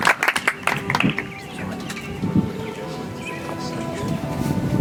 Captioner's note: audience applauds